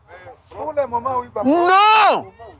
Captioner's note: crowd